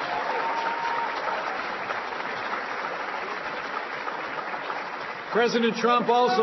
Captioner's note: applause